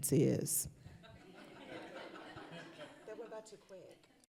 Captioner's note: laughter